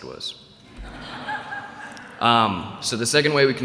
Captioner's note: laughter